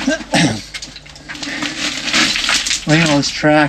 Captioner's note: grunts